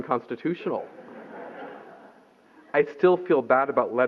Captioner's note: laughter